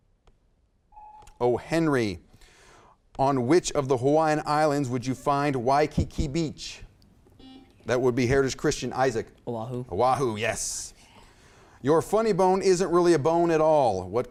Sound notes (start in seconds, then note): 1.0 timer buzzes; 7.4 buzzer beeps